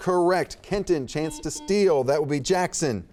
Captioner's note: buzzer beeping